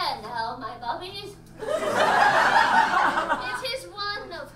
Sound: audience laughs

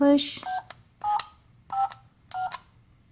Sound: beeping

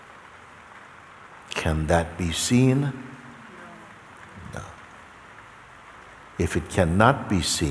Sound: voices in audience

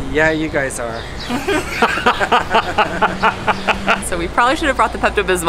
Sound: everyone laughs

